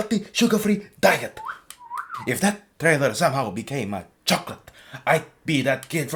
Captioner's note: Diabetic Bird Whistling